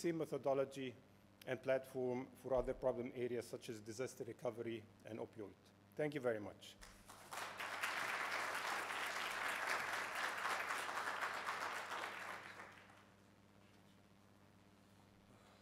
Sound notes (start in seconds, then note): 6.8 applause